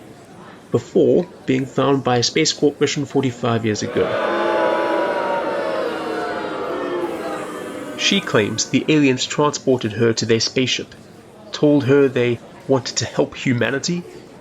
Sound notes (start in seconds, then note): 3.8 booing